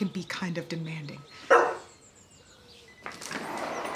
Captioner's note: Nala barks